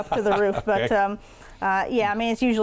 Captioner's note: laughing